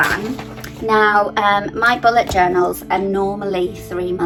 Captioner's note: paper crinkling